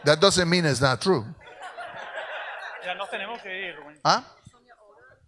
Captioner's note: audience laughs